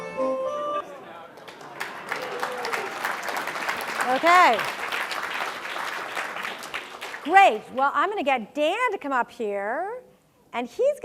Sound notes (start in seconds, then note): 1.2 applause